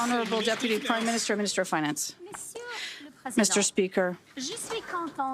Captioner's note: some Applause